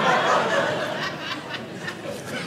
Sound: audience laughing

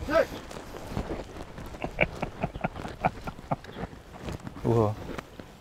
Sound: laugh

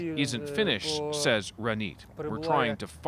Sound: speaking alternate language

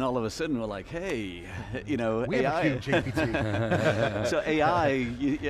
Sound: laughing

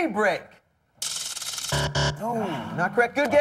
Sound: buzzer

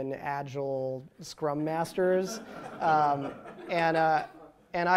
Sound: laughter

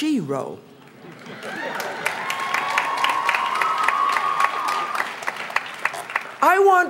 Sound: cheers

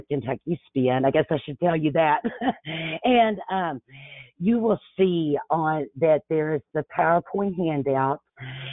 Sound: laughs

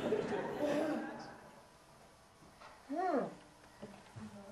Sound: audience laughing

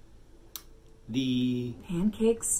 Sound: nervous

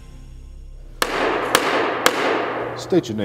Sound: gavel pounding

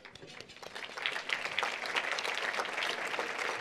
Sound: applause

